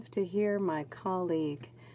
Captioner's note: speaking French